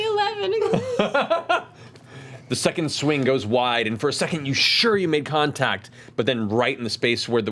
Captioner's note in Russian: смеётся